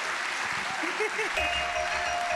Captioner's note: giggling